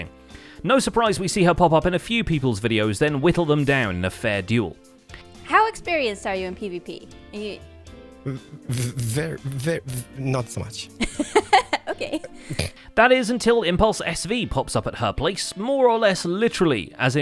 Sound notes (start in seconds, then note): 11.0 laughs